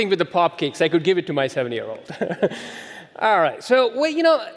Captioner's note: chuckles